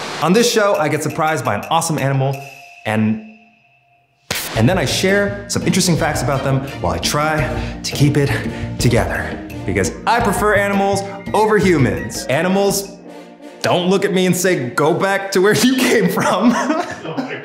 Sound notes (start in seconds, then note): 4.3 static; 15.7 laughs